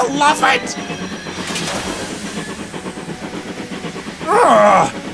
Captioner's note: loud clang, followed by whooshing of steam